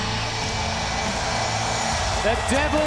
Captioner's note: crowd cheering